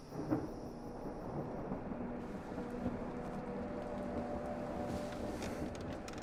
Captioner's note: thunder rumbles; suspenseful music